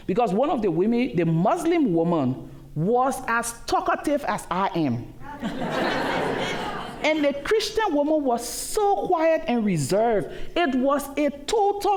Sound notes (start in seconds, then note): 5.2 laughter